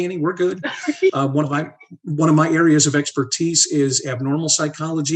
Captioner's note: laugh